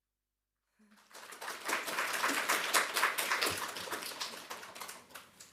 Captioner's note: applause